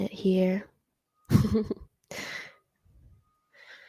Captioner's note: chuckles